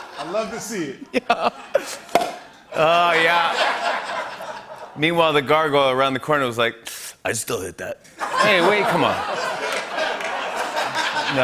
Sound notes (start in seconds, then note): 2.7 laughter; 7.1 smoker's voice; 8.1 laughter